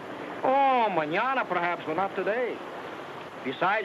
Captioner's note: speaks in foreign language